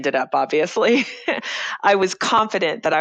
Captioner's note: laughs